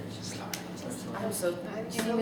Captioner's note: whispered